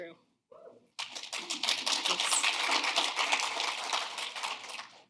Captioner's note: audience clapping